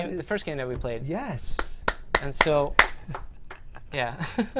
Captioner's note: applause